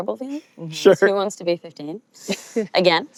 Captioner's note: laughs